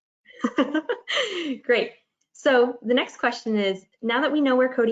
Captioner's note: chuckles